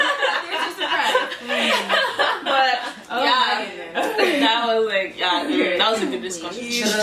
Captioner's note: laughter